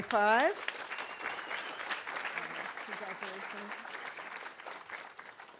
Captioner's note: audience applauding